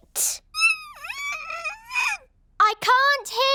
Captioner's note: squeaks